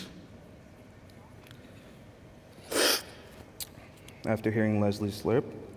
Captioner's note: slurping